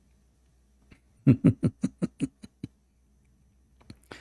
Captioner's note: Ketawa